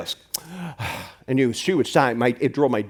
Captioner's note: exhales